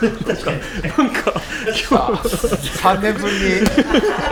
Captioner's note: laughs